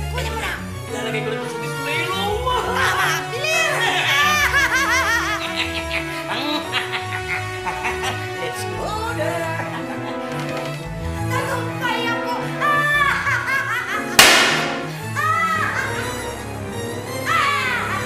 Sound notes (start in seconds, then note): 4.1 cackling; 12.8 cackling; 14.2 explodes